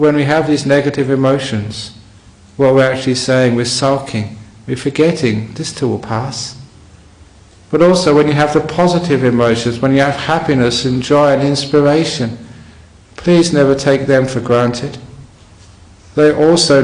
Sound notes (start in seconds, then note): none